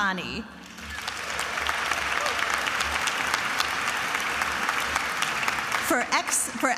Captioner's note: attendees applauding and cheering